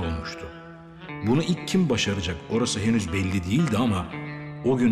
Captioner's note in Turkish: Ahmet dış ses